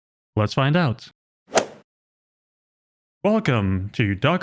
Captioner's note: golf ball hit sound effect